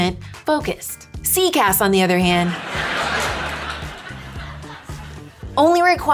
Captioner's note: audience laughing